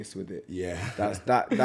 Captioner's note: laughs